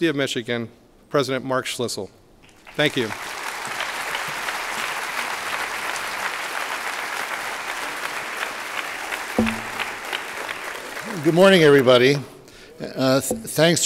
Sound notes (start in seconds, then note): 3.0 applause